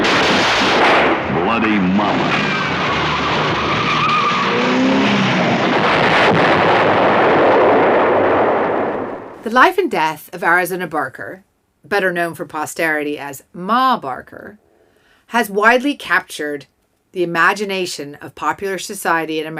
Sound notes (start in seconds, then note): 0.0 gunshots ringing out; 3.2 tires squealing; 4.5 flames sizzling; 6.0 car igniting